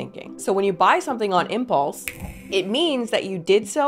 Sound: snaps fingers

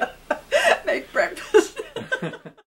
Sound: laughter

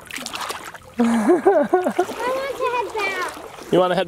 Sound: dad laughing

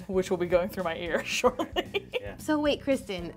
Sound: laughs

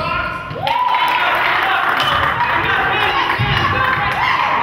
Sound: crowd claps

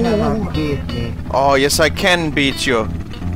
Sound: in italian voice

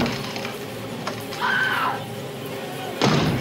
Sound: she screams

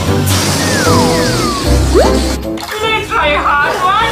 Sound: balloon deflating

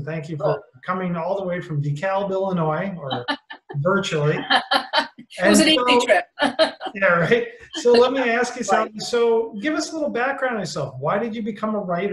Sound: laughter

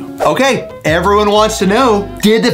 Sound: screen swooshes

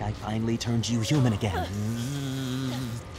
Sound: buzzing

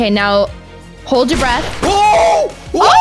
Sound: gunshot

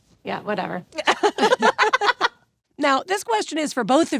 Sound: Ashley and Jennifer laughing

